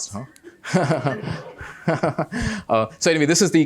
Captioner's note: laughter